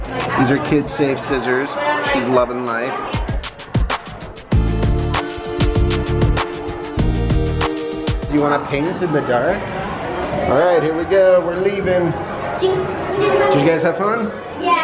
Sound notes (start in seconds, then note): 3.2 upbeat music; 12.5 child talk